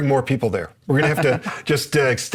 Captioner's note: laughs